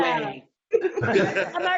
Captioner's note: laughing